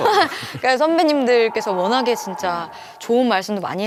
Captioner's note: raging storms